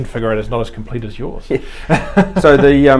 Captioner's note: laughing